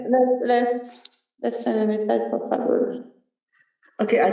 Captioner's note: non-english speech